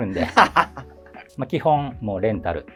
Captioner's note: laughing